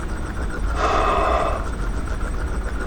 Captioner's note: Flint sighs